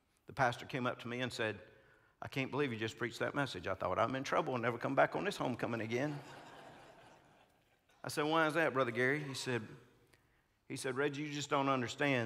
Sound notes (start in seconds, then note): 6.1 congregants laughing